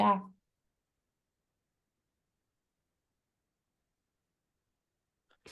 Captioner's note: silence